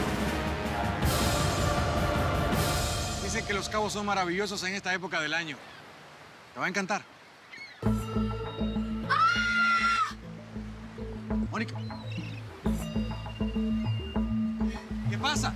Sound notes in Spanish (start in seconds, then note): 10.3 grita